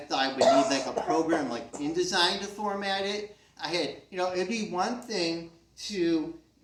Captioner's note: someone in crowd coughs